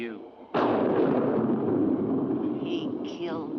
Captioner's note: loud thunder